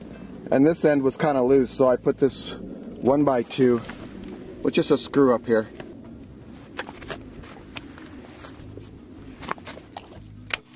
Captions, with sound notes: And this end was kinda loose so I put this one by two, which is a screw up here. (snow crunching)